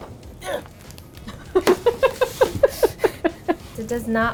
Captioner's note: grunting; laughing